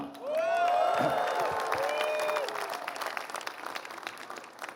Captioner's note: applause